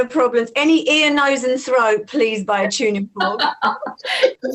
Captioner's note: laughs